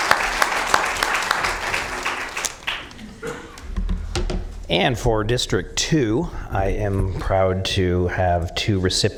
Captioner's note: applause